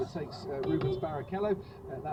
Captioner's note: beepbeep